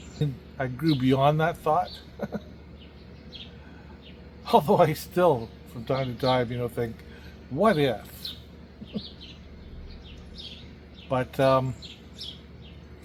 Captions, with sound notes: I grew beyond that thought. [laughing] Although I still from time to-time-think, what if? But um,